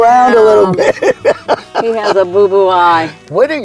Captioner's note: laughing